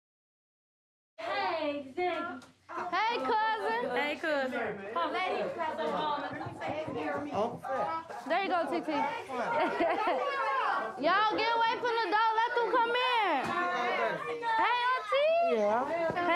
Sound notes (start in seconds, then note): 8.8 group talking; 13.3 laughing